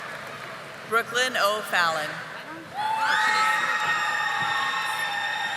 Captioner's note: audience applauding